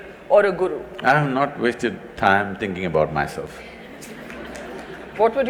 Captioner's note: laughter/Applause